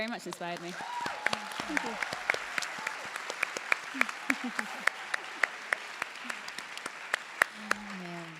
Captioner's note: applause